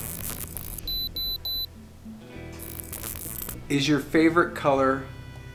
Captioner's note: detector beeps